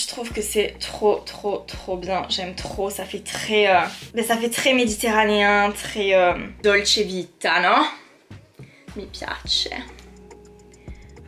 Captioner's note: in Italian